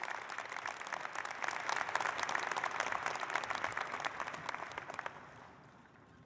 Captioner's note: applause